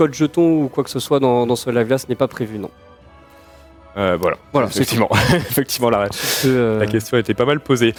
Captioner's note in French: rires